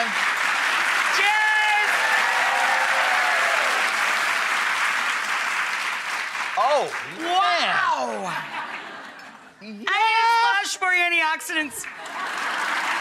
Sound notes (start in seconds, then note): 2.4 audience applauding; 2.4 audience cheering